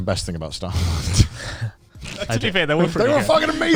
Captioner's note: chuckles